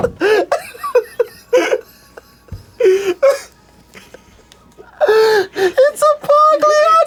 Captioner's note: continue laughing; laughs; laughs